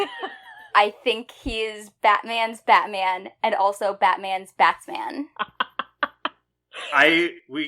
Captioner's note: laughs